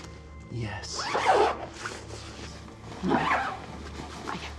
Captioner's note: zipper rasping